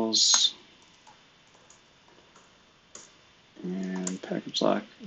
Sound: computer keyboard clicking

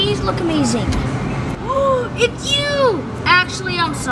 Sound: gasps

